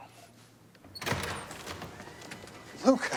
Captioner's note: door open close